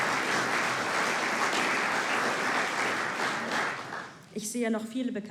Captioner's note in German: Applaus